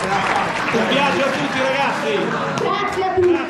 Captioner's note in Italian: Applauso